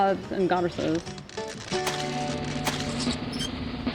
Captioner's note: sound: Kiss